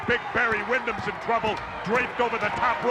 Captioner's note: audience chanting and clapping